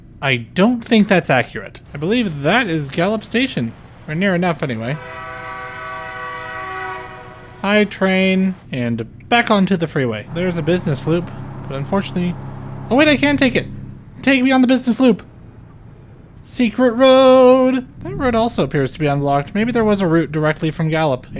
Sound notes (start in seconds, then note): 4.8 train horn